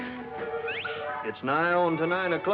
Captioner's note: whistle